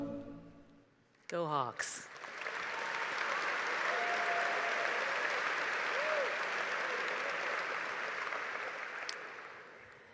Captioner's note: applause